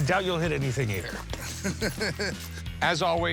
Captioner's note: laughs